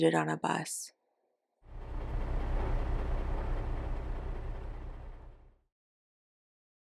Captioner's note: engine rumbling